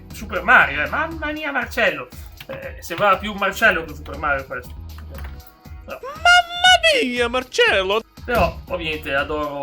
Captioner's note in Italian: urlo